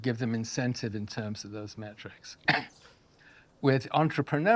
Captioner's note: coughs